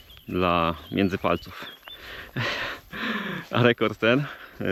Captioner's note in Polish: śmiech